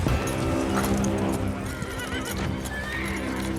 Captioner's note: horses neighing